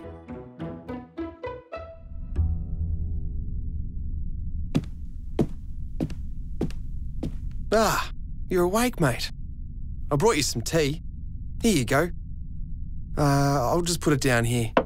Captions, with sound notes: (playful music) (footsteps thumping) Ah, you're awake, mate. I brought you some tea. Here you go. Uh, I'll just put it down here.